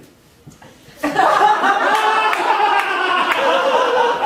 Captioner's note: audience laughing